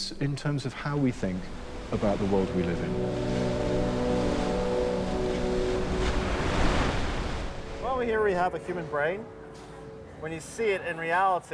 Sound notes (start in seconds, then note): 4.6 somber electronic music; 4.6 waves crash